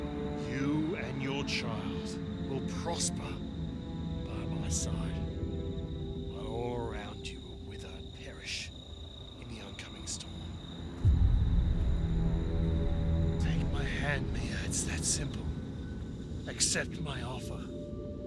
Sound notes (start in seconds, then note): 11.3 crickets chirping; 11.3 eerie music